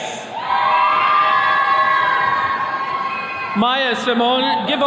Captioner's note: attendees cheering